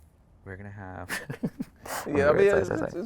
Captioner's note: chuckles